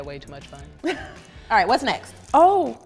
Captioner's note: laughs